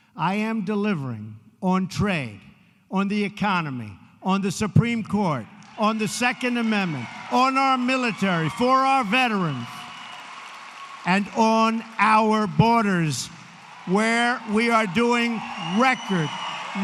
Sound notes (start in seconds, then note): 10.7 applause